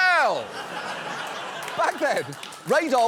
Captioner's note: studio audience laughs, applauds